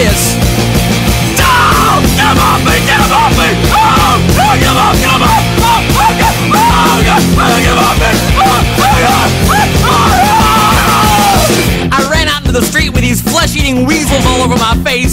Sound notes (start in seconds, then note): 0.1 frenzied screaming; 8.3 screaming